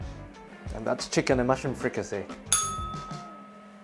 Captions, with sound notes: And that's chicken and mushroom fricassée. [bell rings]